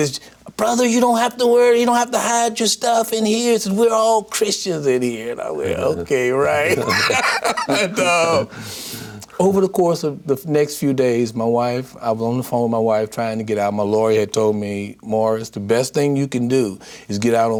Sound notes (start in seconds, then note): 6.6 laughter